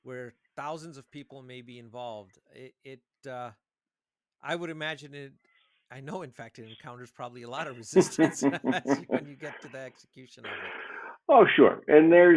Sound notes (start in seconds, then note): 6.0 chuckles; 8.3 laughing